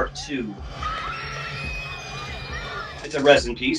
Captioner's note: girl screaming